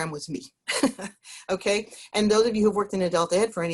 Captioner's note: laughs